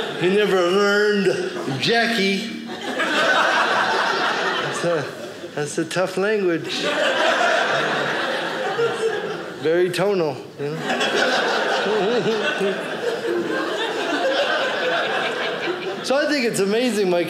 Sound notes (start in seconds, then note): 0.0 audience laughing; 2.4 audience laughing